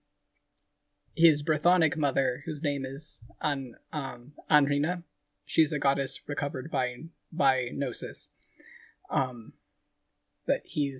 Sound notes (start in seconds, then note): none